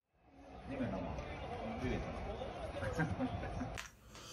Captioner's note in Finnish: naurua